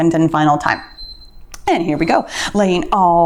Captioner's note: timer beeps